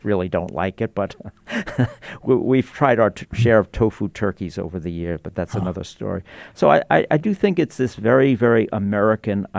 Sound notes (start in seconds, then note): 1.2 chuckles